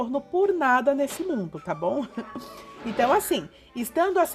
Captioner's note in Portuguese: risos